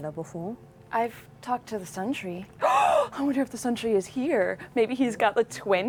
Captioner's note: gasps